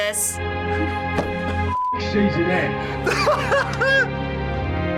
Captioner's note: laughs